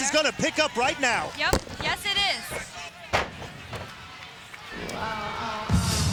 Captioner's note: body thudding; fun pop music